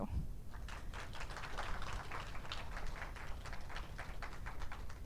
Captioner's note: audience applauds